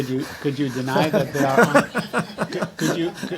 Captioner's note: laughter